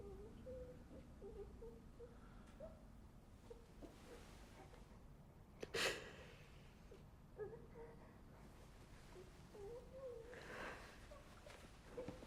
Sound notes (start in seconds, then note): 6.0 Bryn gasps; 9.5 child whimpering